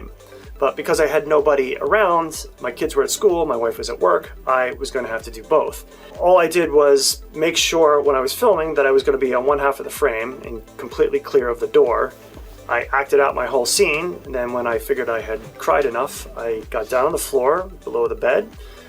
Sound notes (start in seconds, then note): none